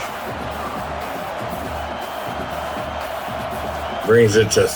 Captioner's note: crowd Noises